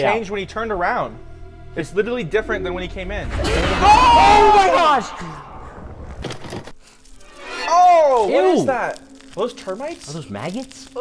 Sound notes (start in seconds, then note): 6.5 video clunking